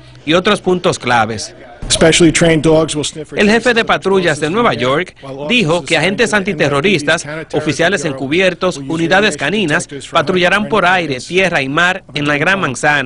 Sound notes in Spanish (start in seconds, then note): 8.4 hablando en inglés